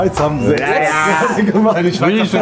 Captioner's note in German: Lachen, Gemurmel; sagt etwas auf Französisch